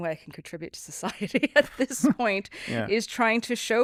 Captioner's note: both laughing